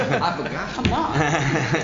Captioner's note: laughter